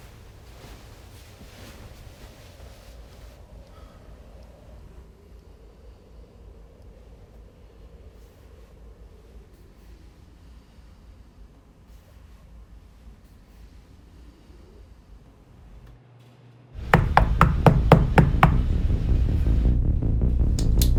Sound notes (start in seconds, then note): 16.9 loud knocking; 18.1 dramatic music